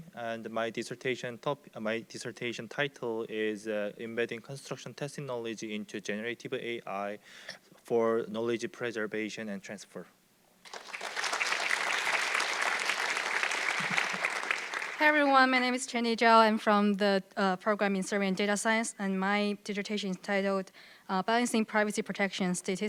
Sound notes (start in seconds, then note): 10.6 audience clapping